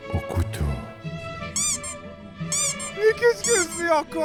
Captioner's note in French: Couinements de jouet en plastique